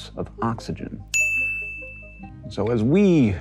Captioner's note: bell dings